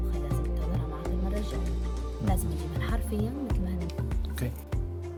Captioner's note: interpreting in Arabic